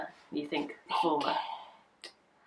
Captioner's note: whispering